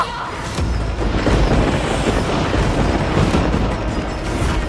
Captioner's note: thundering